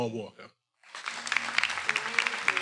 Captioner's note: everyone applauding